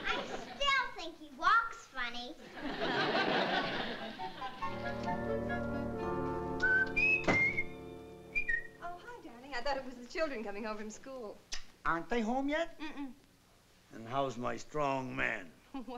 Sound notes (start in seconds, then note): 6.6 whistling